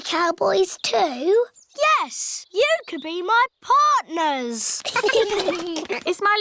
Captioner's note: all giggling